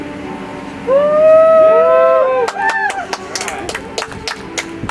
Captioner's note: audience applauds; soft music